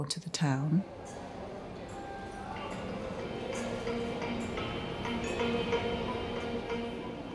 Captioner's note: general street hubbub; slow atmospheric music